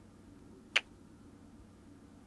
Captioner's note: kiss